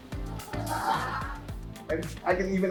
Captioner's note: laughs